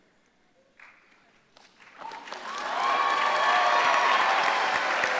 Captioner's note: applause